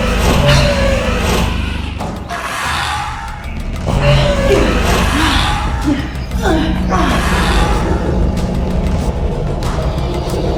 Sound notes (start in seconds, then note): 2.3 dinosaur squawking; 4.0 both grunting